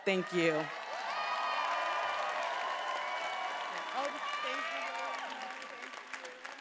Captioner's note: attendees applauding and cheering